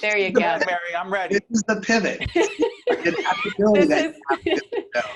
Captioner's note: all laughing